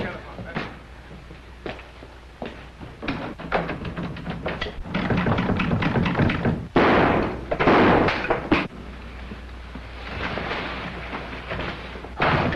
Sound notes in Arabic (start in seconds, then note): 2.5 قرع مقبض الباب; 6.7 طلقات نارية